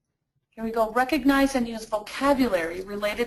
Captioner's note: voiceover